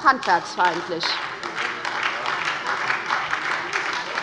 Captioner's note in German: Beifall bei der SPD